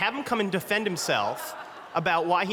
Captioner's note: laughter